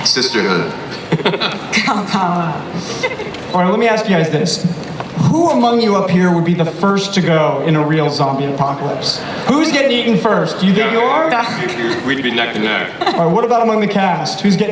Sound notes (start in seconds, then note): 0.2 voiceover; 1.0 laughter